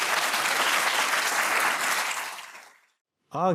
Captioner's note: audience applause